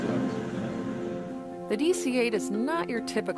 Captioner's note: responds in Spanish